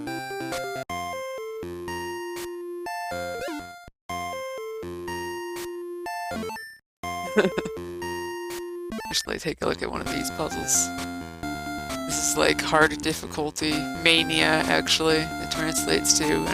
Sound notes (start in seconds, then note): 7.3 laughs